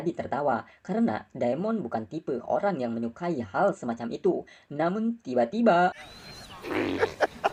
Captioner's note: laughs